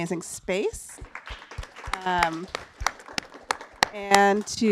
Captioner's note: applause